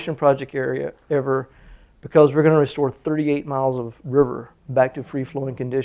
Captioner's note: none